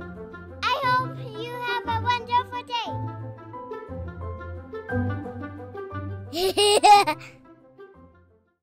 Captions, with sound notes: I hope you have a wonderful day! (laughter)